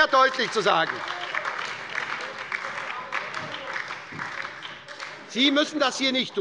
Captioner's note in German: Beifall bei der SPD und der LINKEN - Zurufe von der CDU